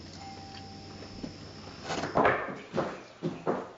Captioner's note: doorbell ringing